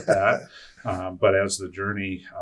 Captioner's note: laughing